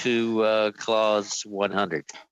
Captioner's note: laughter